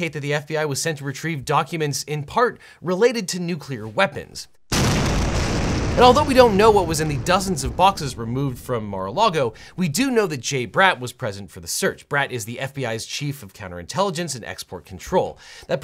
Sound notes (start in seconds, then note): 4.7 bomb exploding